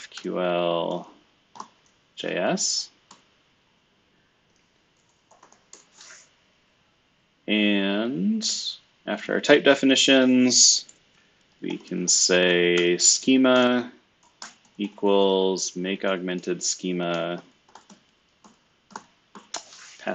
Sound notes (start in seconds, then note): 3.1 computer keyboard clicking; 17.7 computer keyboard clicking